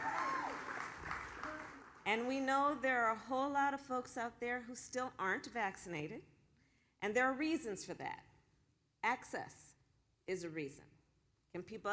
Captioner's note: applause